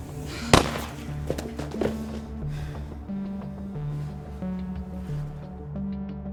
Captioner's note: tense music; gunshot echoing